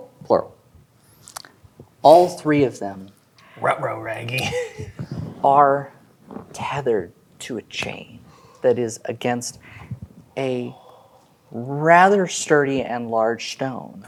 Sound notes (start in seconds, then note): 4.1 as Scooby Doo